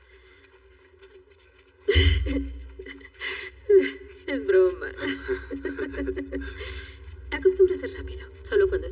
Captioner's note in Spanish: Ríe